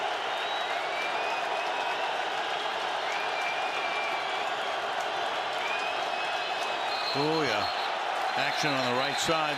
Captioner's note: crowd cheering